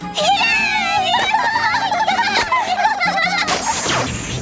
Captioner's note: triplets cheering